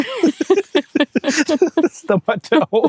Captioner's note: laughing